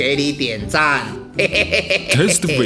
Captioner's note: laugh